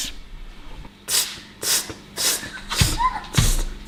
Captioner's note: exhaling rhythmically; table thudding